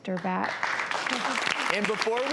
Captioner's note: audience claps